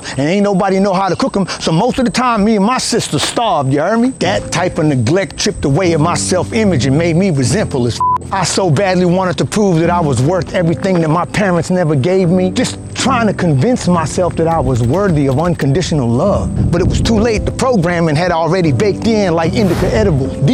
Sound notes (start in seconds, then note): 8.0 beep